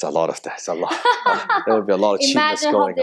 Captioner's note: lady laughs